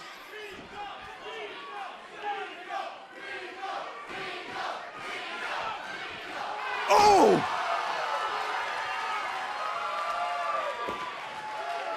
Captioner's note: crowd cheering